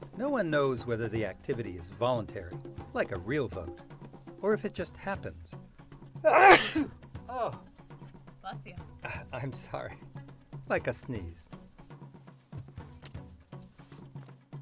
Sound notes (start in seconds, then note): 6.2 sneezes